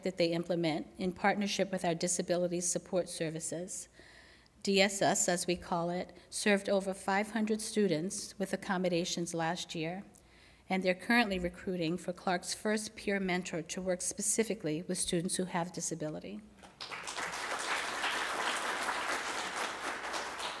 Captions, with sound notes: that they implement in partnership with our Disability Support Services. DSS, as we call it, served over 500 students with accommodations last year, and they're currently recruiting for Clark's first peer mentor to work specifically with students who have disability. [APPLAUSE]